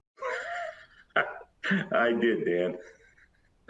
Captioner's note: laughs